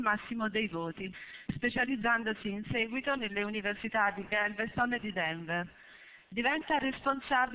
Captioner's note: Italian